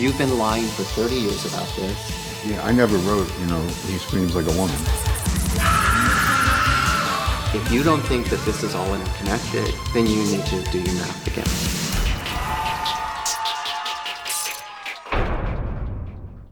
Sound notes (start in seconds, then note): 5.5 shrieking scream; 12.1 audience cheering; 15.0 drum pounding